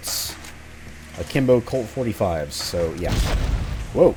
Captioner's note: explosions, factory rumbling